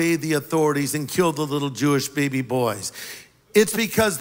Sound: none

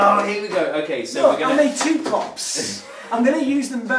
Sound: laughs

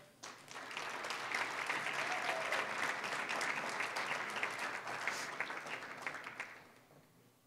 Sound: applause

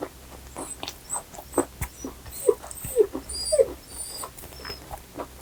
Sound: dog whining issue

